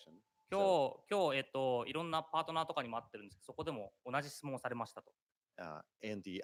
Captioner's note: speaking japanese